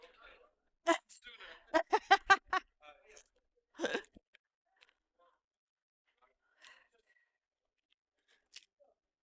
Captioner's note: laughter